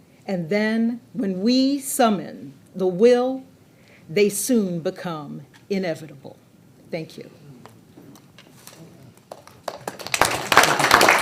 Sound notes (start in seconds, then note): 9.2 audience applauding